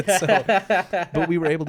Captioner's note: laughing